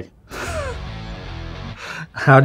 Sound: chuckles

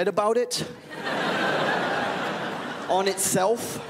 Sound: crowd laughs

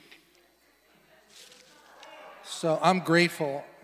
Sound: congregation laughing

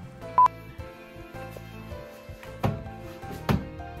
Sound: beep

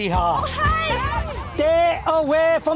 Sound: chatter

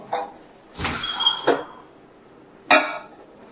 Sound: net door being opened; dishes clattering

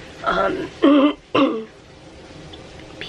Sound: clears throat

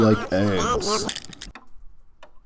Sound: egg crack

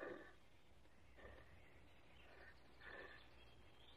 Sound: Kiog snorting

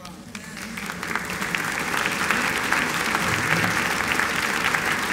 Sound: applause

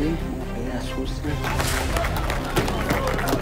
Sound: applause

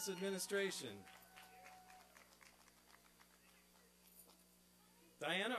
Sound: applause and cheering

